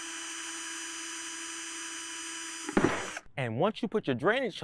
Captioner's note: drill whirring